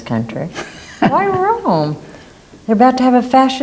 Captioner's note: Philip laughs